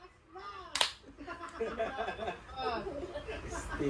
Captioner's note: laughter